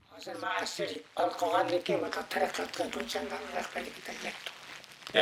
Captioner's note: speaks in foreign language